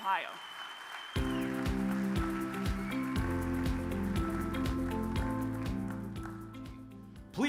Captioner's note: audience claps; bright music